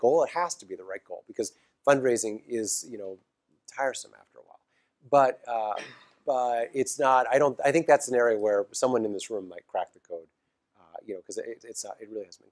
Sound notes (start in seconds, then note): 5.7 cough